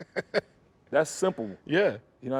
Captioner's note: laughs